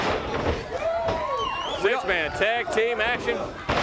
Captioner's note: crowd cheering